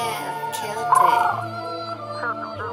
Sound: bird noise

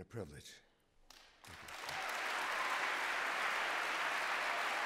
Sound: applause

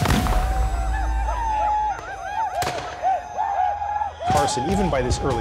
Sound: gunshots, whooping

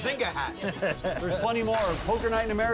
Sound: laughing

